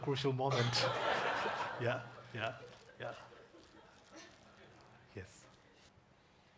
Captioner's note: audience laughing